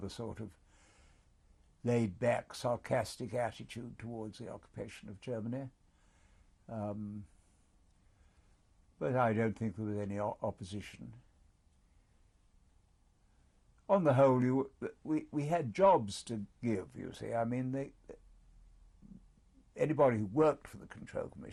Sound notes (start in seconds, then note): 5.6 pauses for 3 seconds; 11.1 pauses for 3 seconds